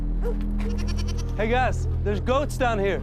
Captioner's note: goat bleats